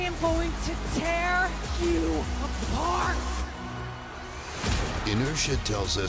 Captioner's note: none